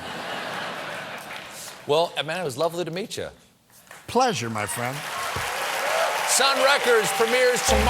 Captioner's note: cheers and applause